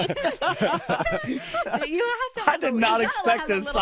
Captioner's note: laughter